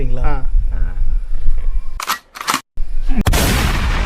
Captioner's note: GUN RELOADED with 24 Bullets